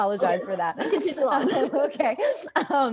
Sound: laughs

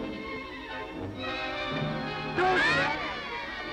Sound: yelling

